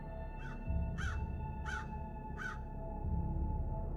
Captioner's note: crows cawing